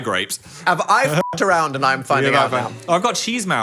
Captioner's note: beep